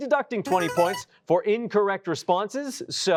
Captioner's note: chime